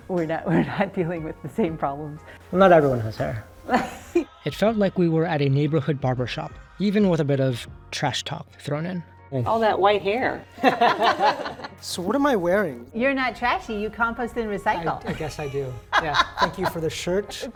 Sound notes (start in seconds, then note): 0.5 laughing; 3.6 laughing; 10.5 people laughing; 14.9 laughing